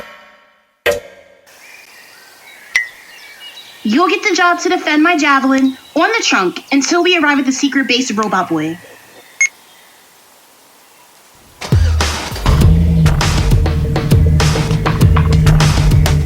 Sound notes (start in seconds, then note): 11.5 engine start up